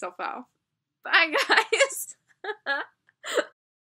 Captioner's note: laughing, of course lmao